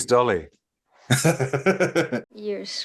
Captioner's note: laughter